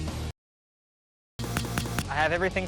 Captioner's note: pat pat pat